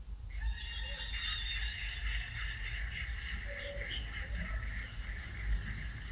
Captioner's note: cheers and applause